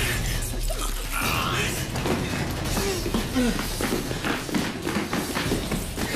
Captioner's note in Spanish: Quejido